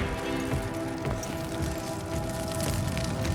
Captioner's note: forge fire noise